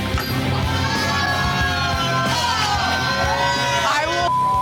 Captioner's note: cheering